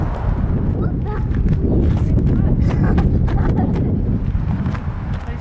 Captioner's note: laughs